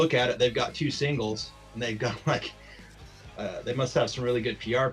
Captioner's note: chuckles